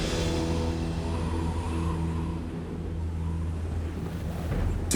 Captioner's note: wind howling